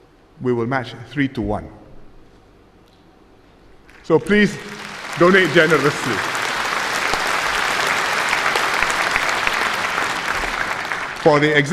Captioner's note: applause